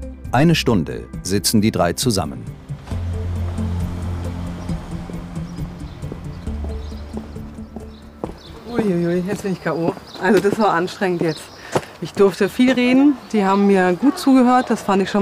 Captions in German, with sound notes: Eine Stunde sitzen die drei zusammen. (Spannungsvolle Musik) (Vogelzwitschern) Uiuiui, jetzt bin ich k.o. Das war anstrengend jetzt. Ich durfte viel reden, die haben mir gut zugehört.